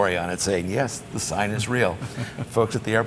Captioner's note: chuckles